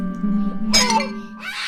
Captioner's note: doll shattering